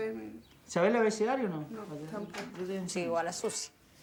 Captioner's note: speaking Spanish